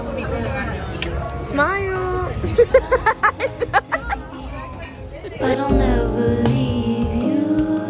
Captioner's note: laughing